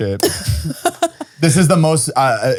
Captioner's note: laughing